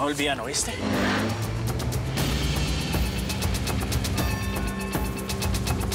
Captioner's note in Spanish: sonido de motor acelerado